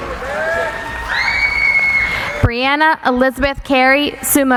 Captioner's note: cheering